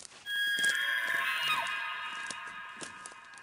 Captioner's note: elk bugles